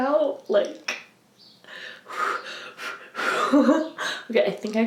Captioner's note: literally hyperventilates and laughs like a weirdo